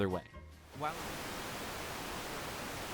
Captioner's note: 𝘴𝘵𝘢𝘵𝘪𝘤 𝘩𝘪𝘴𝘴